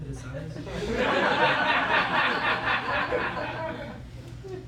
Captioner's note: laughter